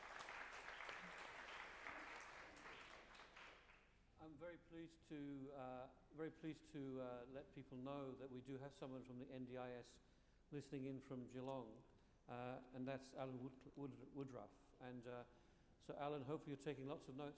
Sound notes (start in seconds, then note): 2.5 applause